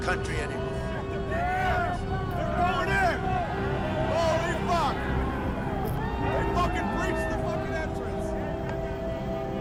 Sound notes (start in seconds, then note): 3.8 crowd chatter